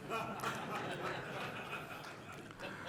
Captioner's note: audience Laughing